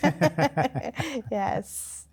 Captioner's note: laughing